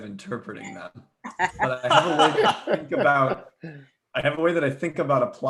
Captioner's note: laughs